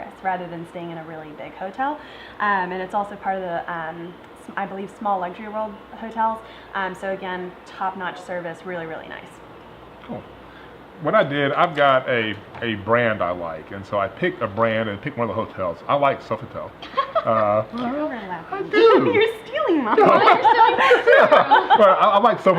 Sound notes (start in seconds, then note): 17.0 laughing